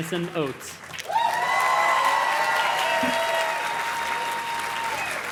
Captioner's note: audience cheers and claps